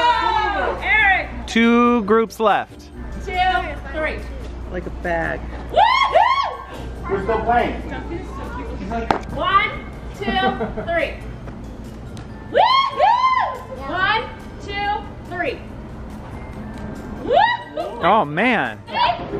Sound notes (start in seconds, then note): 5.8 yelling; 12.6 cheering; 16.4 cheering